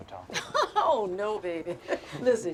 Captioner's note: Betty laughs